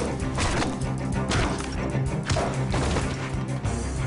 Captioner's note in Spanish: golpes